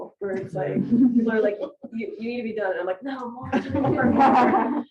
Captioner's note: laughter